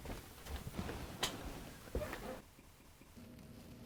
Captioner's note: Dr Hitchcock shuffles in seat